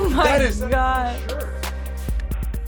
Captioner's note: chuckles